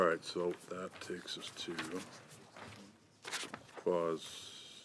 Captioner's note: speaking French